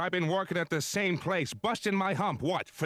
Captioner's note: dramatically